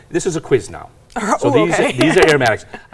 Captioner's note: laughs